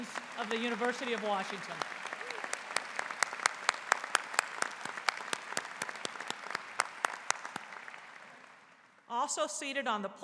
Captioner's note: applause